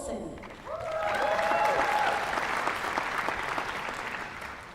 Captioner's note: applause